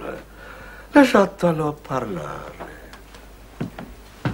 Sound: speaks Italian

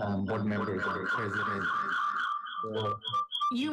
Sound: resonating echo

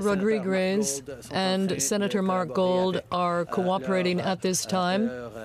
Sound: speaking french

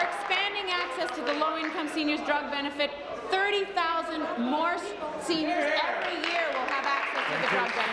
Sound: applause

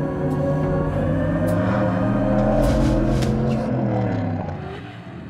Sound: engines roaring

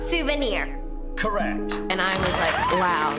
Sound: bell dinging

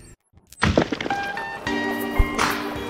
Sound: concrete smashing

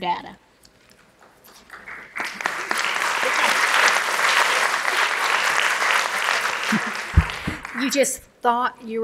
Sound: applause

